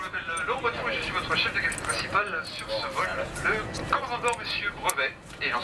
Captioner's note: French spoken over intercom